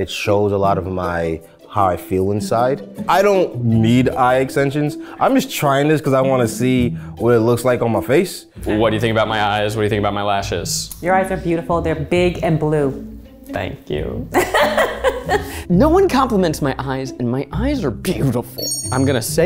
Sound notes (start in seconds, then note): 14.3 laughs